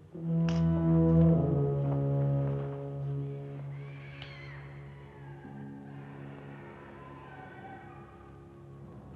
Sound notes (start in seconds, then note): 3.2 creepy noises